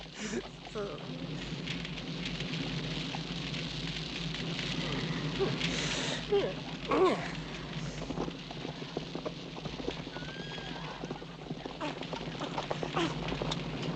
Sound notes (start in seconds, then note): 1.4 flames crackling; 4.9 laughs; 12.9 coughing